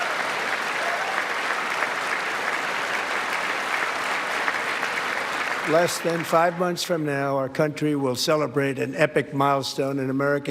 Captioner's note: applause